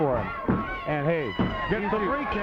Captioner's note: hands thudding